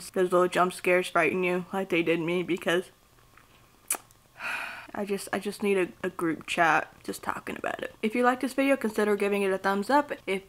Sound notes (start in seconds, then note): 3.8 smacks lips, exhales